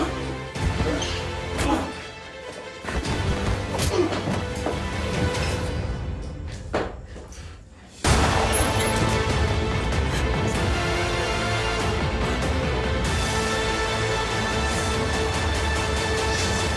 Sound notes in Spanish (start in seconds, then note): 8.1 Disparo